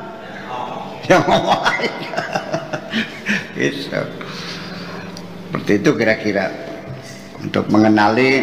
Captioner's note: laughs